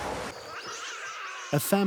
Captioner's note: otters snarling